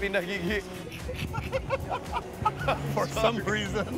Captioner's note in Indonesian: Ketawa